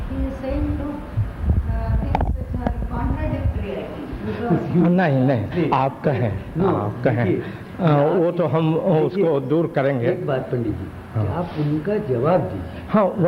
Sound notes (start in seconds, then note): 6.6 discussion in Hindi